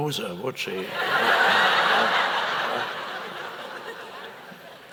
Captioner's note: audience laughs